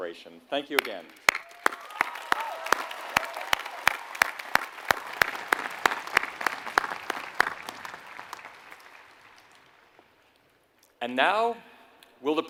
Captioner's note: applause